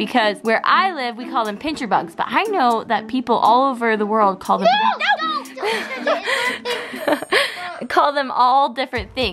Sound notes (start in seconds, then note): 4.6 boys yelling